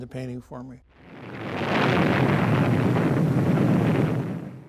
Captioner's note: explosion roaring